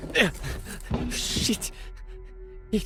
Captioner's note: grunts